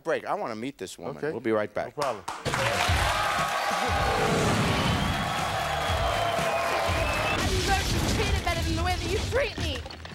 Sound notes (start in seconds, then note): 2.3 wall smashing; 2.4 audience cheering